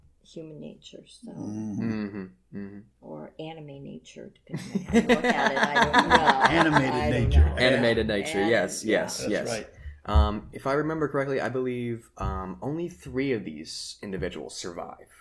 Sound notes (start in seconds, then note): 4.5 laughter